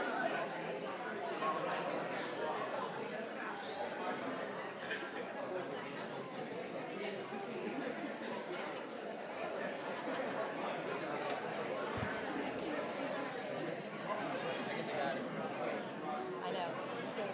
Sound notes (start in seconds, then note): 6.5 people chattering continues